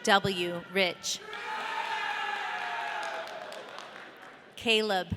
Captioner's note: audience cheering